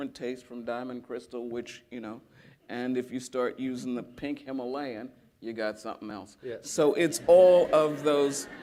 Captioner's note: laughter